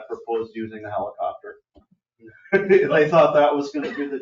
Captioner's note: laughs